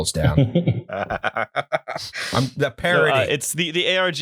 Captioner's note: laughter